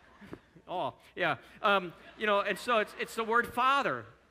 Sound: audience chuckling

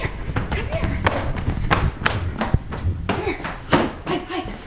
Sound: footsteps

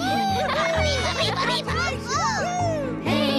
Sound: cheering and giggling

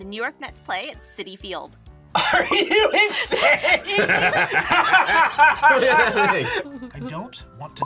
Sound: laughs

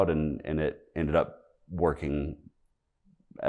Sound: none

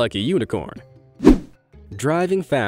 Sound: image whooshing

